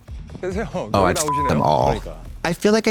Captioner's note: beep